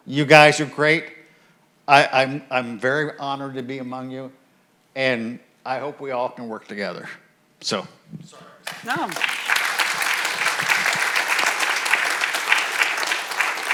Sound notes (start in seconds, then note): 8.6 audience applauds